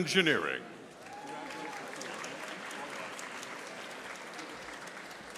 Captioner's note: audience applauding